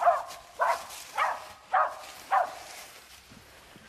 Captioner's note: barking